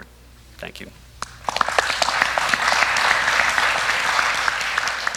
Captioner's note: applause